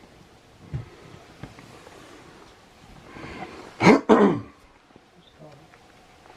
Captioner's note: coughing